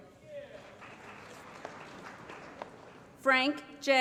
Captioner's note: applause